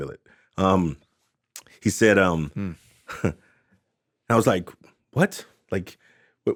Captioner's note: chuckles